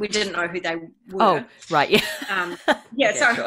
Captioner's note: laughs